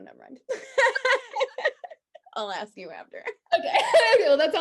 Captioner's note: both laughing; both laughing